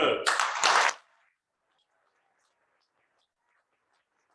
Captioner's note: cheering and applause